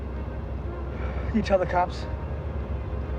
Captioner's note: sighs